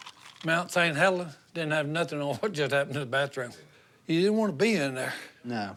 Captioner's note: none